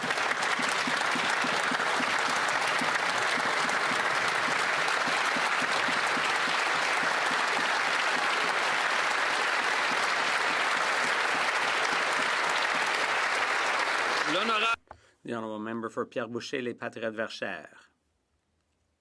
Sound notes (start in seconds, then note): 5.4 some Applause